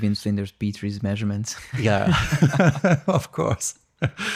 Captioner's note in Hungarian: nevetés